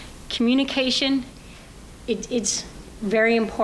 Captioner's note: none